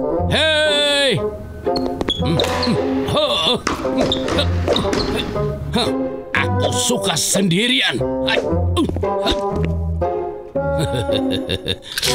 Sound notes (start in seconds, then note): 2.2 chuckles; 3.0 Master Bread grunting; 10.6 Master Bread laughing; 10.7 laughing